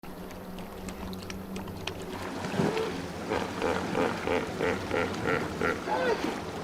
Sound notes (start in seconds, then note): 0.4 water whooshing; 2.5 hippos groaning